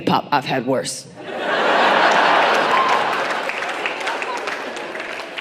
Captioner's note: audience applauding